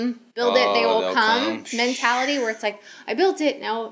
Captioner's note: sighs